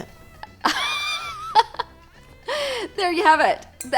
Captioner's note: laughs